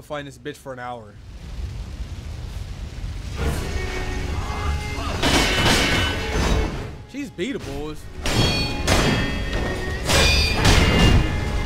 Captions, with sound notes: - I'm gonna fight this bitch for an hour. (intense music) (sword clashes) She's beatable, boys. (sword clashes)